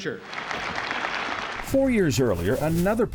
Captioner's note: audience applauds